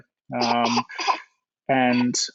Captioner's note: coughs